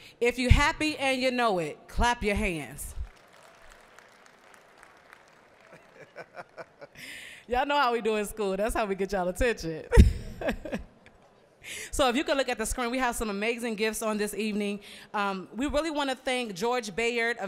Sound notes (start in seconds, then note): 3.0 applause; 10.0 laughing